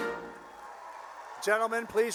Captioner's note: cheering